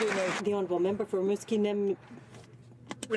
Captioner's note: some Applause